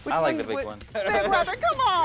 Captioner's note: laughs